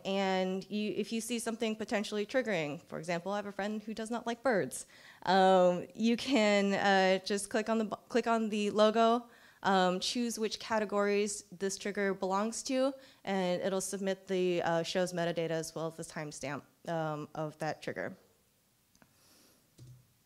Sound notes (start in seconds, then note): none